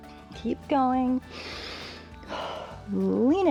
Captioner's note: inhales and exhales